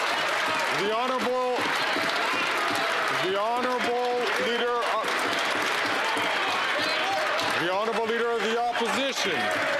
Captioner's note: some Applause